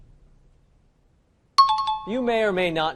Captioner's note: time chime